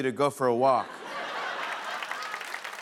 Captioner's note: laughter